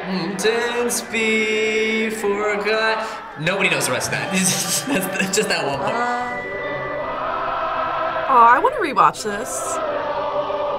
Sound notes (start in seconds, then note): 3.4 laughs